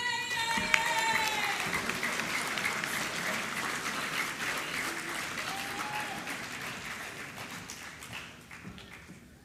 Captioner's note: applause